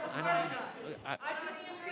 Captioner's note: public interjecting